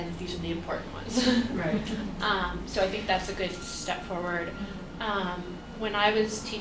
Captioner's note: laughs